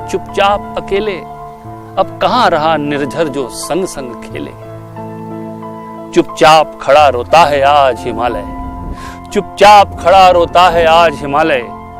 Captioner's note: speaks in Hindi – not transcribed